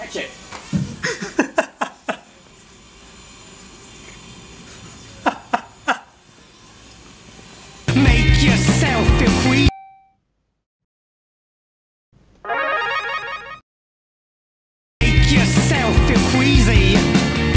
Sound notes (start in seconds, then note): 1.0 laughs uncontrollably off-screen